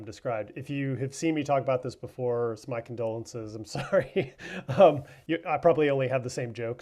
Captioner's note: laughs